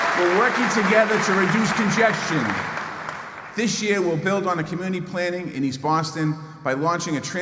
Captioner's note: applause